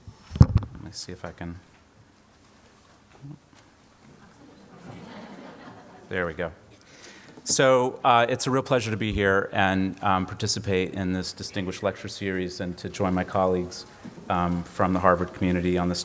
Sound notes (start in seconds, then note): 4.2 laughter